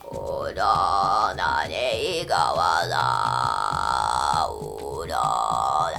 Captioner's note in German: murmelt mit verschwörerischer und krächzender Stimme Voodoo-Formeln